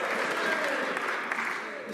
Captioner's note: some Applause